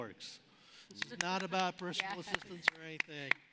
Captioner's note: applauding